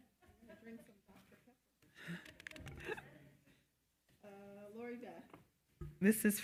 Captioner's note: attendees laughing; speaks softly